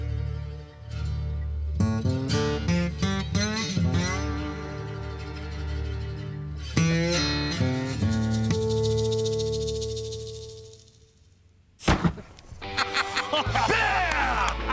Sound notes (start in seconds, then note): 11.8 gunshot; 12.7 Rick laughing